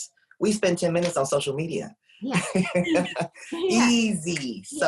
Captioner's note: laughs